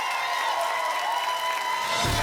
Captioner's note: applause and cheering cont